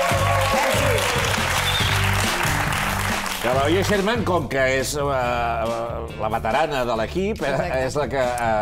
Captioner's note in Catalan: aplaudiments